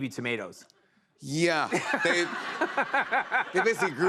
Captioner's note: laughter